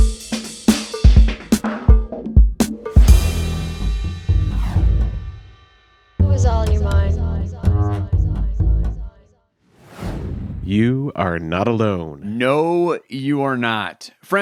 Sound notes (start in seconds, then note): 0.0 upbeat music; 9.7 graphic whooshing